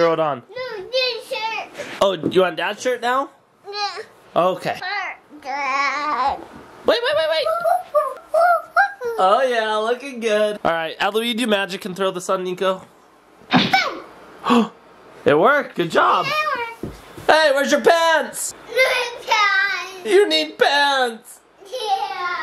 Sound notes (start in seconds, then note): 7.8 whooping; 13.5 poof sound effect; 15.5 gasps; 18.9 giggling